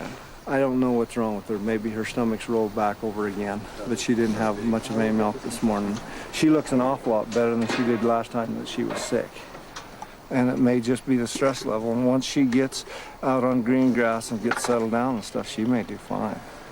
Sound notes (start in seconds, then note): none